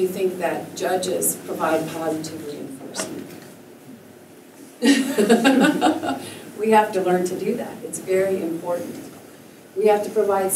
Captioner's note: laughter